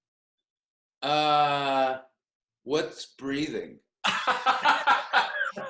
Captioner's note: laughter